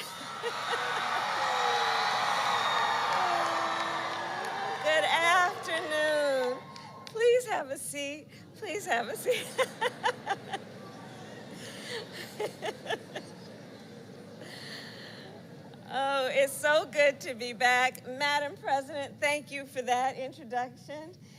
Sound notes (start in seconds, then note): 0.0 applause; 9.2 laughs